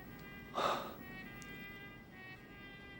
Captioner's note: sighing